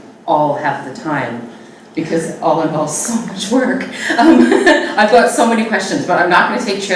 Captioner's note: laughs